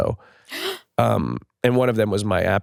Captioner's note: gasps